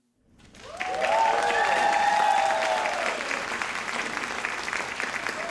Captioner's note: audience cheering and applauding